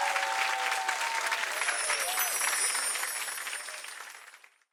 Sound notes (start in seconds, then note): 1.6 chimes twinkle